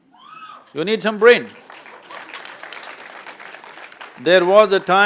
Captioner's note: applause